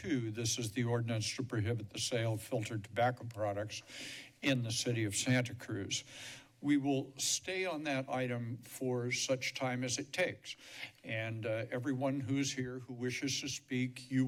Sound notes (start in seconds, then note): none